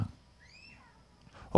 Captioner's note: scream off camera